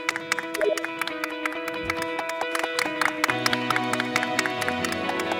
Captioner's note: the producers applaud with smiles on their faces